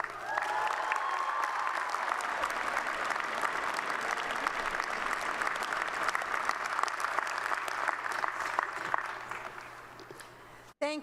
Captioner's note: applause